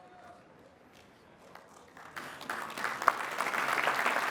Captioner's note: applause